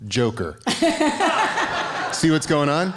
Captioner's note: laughing